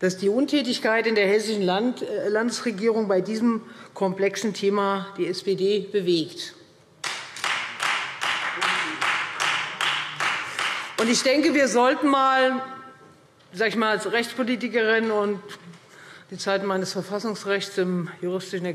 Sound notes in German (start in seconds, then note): 7.0 Beifall Freie Demokraten